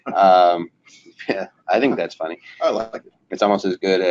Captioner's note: laughing